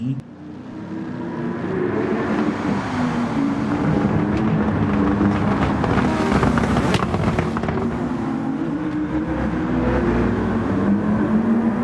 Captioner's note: engines revving, cars noises, rain